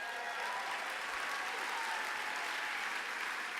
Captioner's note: applause